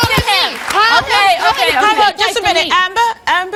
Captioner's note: yelling